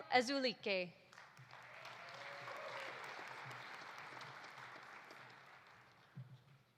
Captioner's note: audience applauding; audience cheering